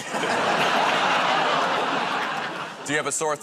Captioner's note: laughter